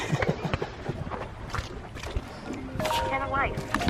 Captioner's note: phone ringing